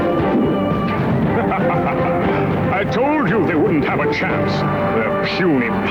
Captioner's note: laughs